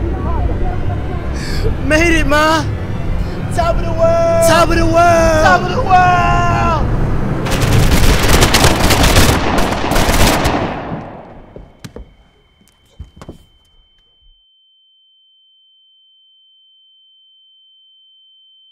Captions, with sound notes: - Made it, ma! Top of the world! (guns firing) (ear ringing)